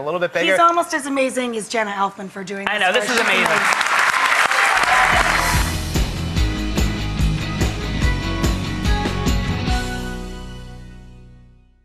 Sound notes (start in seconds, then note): 2.9 audience applauds; 4.8 upbeat music